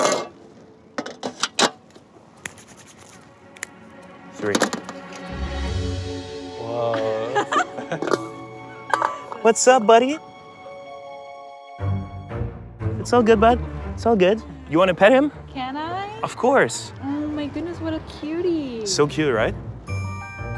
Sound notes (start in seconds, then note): 6.8 laughs